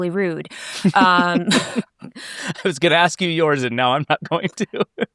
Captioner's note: laughing